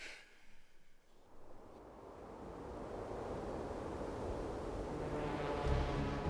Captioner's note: suspenseful music; wind whirls